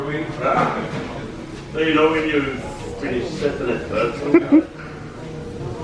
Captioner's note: indistinct background chatter; chuckles